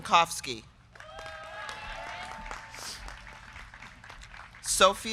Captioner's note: crowd clapping; crowd cheering